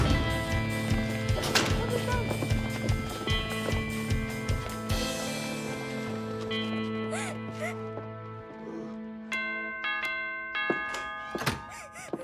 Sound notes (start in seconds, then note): 7.0 crying; 9.3 door bell ringing